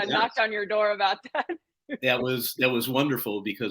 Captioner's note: laughter